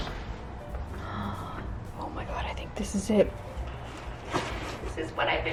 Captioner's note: gasps